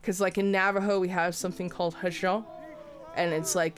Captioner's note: speaks foreign